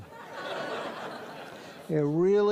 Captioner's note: audience laughs